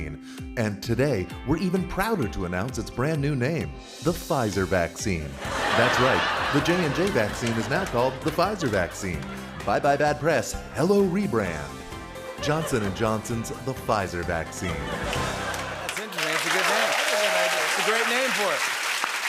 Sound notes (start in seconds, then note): 5.4 laughter; 12.2 laughter; 15.5 applause; 19.0 applause continues